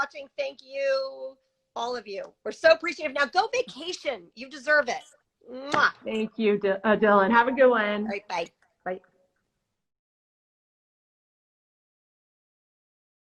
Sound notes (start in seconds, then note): 5.6 smooches